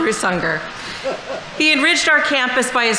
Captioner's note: laughing